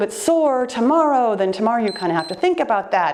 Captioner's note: timer beeps